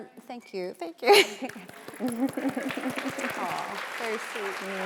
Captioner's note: audience applauding